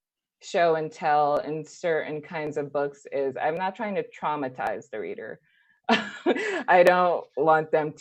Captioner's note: laughs